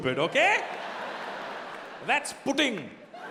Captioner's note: audience laughing